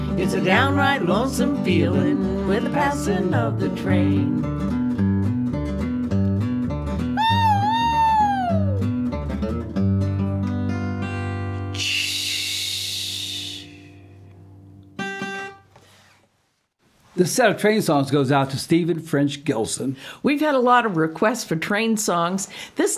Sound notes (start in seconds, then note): 7.2 mimics train whistle; 11.8 sighs - letting off steam